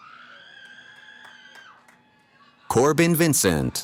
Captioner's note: cheering